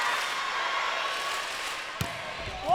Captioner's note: crowd